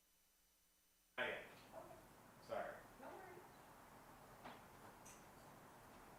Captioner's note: participants chattering